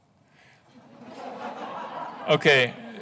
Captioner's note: laughing